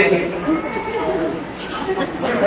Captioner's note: murmuring and laughter